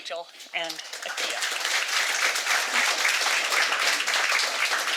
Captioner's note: audience applauding